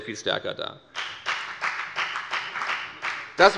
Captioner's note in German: Beifall bei der FDP